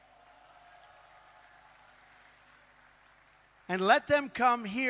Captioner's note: applause